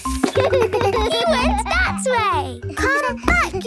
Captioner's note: giggles